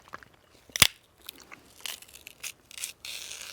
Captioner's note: celery snapping